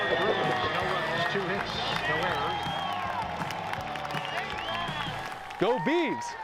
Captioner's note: cheer; background chatter